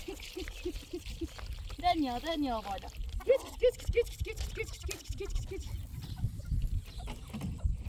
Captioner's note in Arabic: ضحك